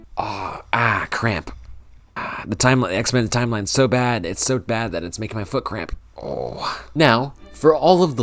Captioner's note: groans of pain